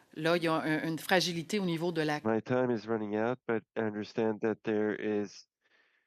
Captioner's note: speaking French